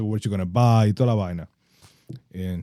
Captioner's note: speaking In Foreign Language